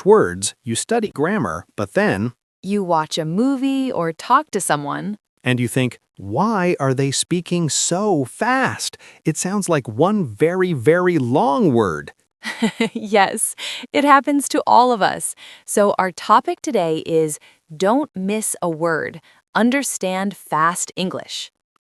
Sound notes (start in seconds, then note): 12.4 laughs